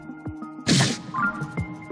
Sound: grunts in Hylian

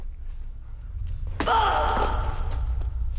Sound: ahmed grunts

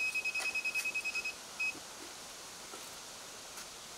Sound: machine beeping

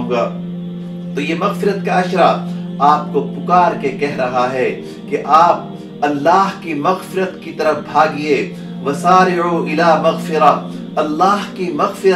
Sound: Arabic

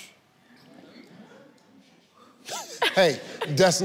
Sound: audience murmurs

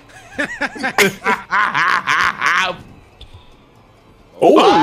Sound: everyone laughing

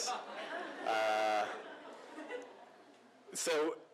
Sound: laughter

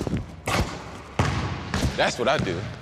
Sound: ball bouncing

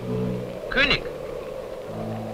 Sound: German spoken audio

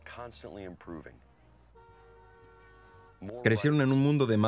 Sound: car hooting

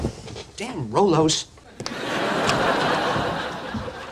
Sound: audience laughing

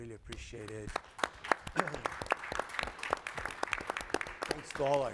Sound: audience applauding

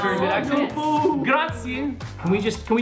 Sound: non-english speech

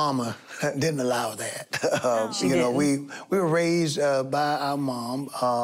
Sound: chuckles

